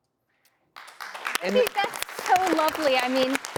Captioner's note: audience clapping